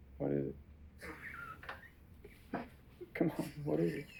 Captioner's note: wheezing laughter